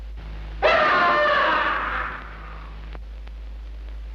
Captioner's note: Richard screams